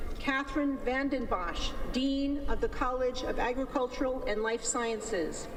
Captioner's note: none